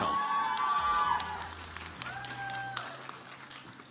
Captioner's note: audience applauds